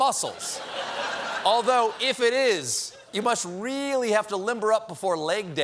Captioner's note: laughter